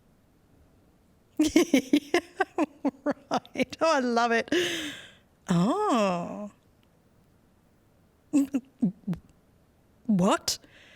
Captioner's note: laughs